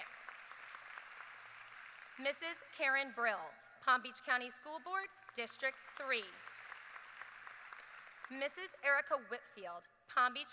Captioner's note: applause